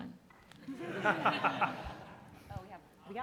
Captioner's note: audience and panelists laughing